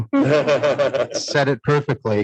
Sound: everyone laughs

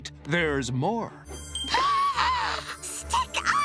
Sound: gasping

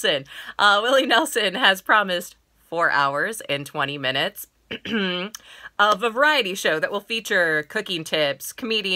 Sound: ahem

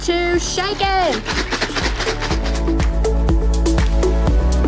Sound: ice rattling

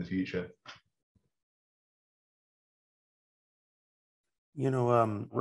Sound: speaking Russian

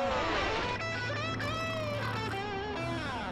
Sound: snoring

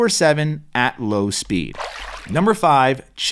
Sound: water splashes

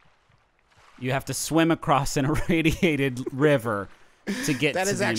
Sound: laughing

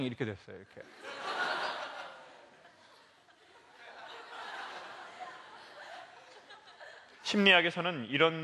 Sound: laugh

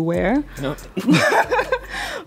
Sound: laughs in broke aghase

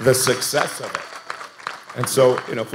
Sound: audience applauding

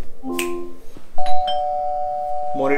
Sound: calling bell rang

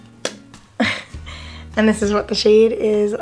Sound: laughs

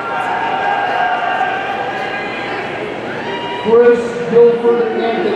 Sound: audience cheering

